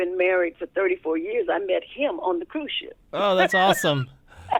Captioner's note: laughter